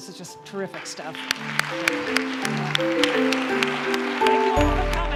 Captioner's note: applause